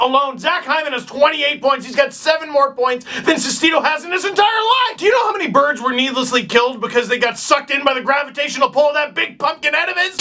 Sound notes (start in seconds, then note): none